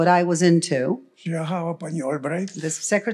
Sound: foreign language

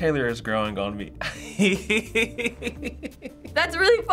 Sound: laughing

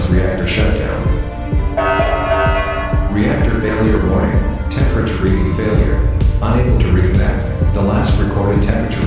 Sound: announcement Chime

